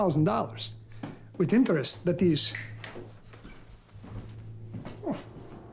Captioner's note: fingers snap